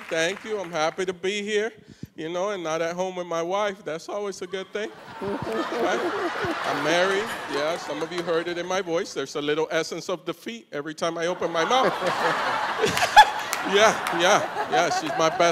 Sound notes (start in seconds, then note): 4.8 laughter; 11.4 laughs